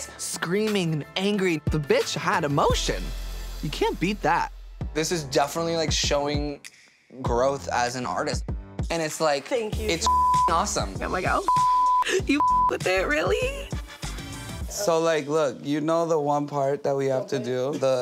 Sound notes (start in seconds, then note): 11.4 beep